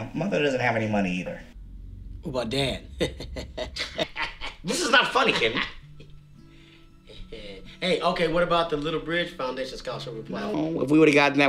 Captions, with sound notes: - What about dad? (laughing) - This is not funny Kenny. - Hey okay, what about the little bridge foundation scholarship we applied for.